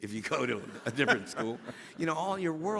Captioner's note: laughing